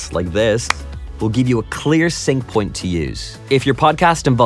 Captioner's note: claps hands